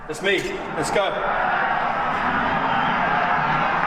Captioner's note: audience roars